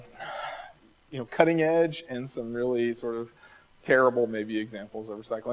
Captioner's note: sighs